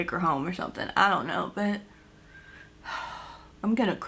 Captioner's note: sighs